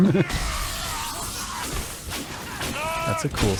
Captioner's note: crippling Ice Dismemberment Sounds